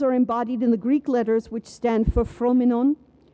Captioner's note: speaks in foreign language